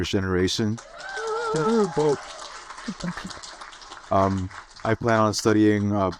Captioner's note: audience applaud and cheer